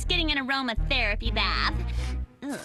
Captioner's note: sniffing